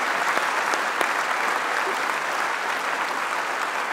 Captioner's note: applause